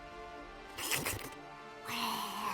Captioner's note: dramatic music; hisses